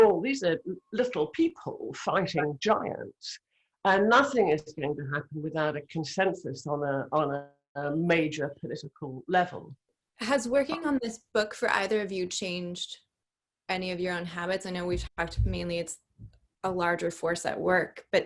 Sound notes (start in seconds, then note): none